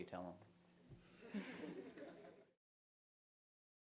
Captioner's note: laughter